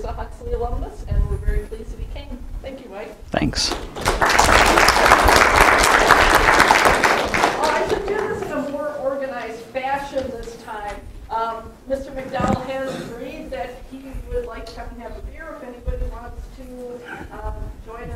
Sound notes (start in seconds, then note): 3.5 applause